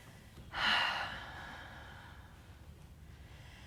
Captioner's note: deep exhale